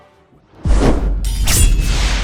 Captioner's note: sword slash sound